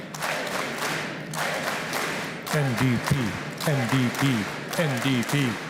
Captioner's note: chanting